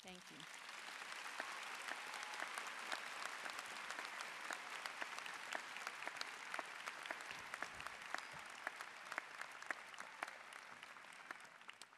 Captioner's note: applause